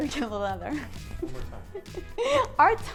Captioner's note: laughing